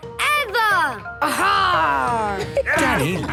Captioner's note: laughter